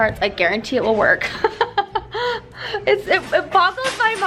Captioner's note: laughing